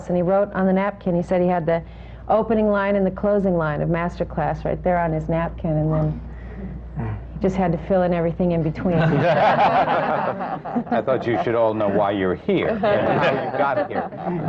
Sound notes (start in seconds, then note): 8.8 laughter